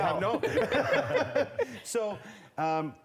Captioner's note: laughter